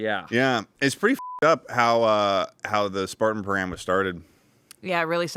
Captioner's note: beep